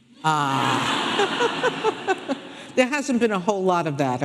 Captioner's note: audience laughing